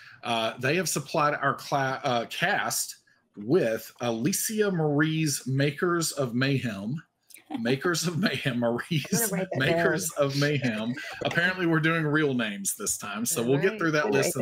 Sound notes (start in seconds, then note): 7.6 laughs; 9.0 chuckles